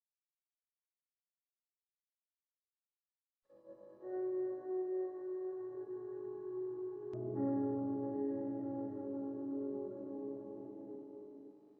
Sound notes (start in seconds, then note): none